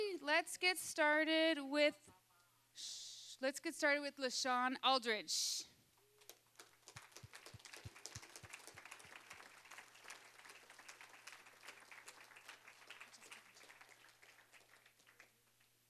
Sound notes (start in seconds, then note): 6.2 applause